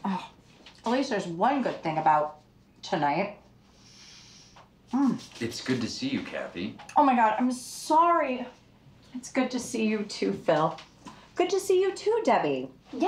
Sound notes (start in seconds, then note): none